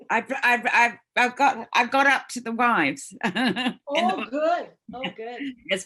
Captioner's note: laughs